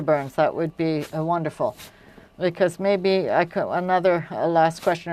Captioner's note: speaking French